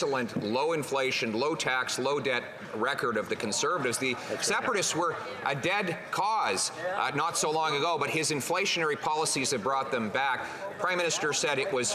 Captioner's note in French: voix de l'interprète